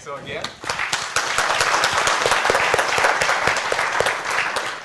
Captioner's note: applause